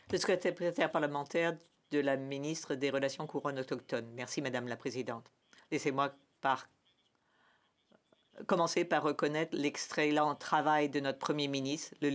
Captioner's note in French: voix de l'interprète